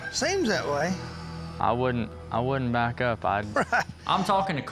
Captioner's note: laughs